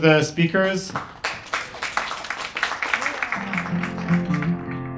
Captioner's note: clapping; gentle music